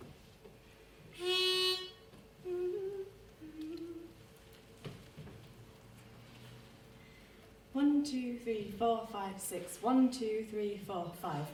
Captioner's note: toot